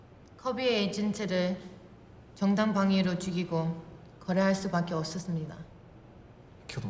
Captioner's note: speaking Korean